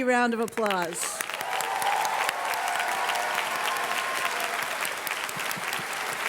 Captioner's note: audience cheers and claps